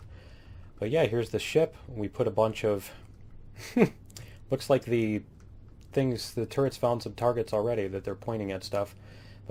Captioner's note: laughs